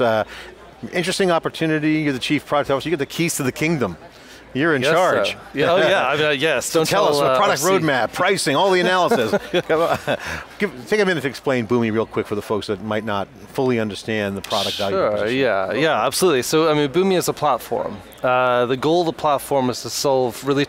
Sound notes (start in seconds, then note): 5.1 laughs; 8.7 laughs